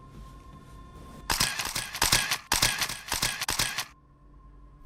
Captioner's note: camera snapping